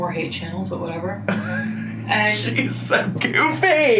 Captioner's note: laughs